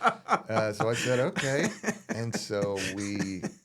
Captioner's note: laughing